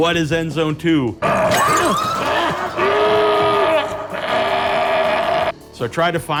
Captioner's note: woman screams; roars